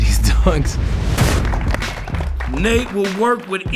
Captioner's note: clapping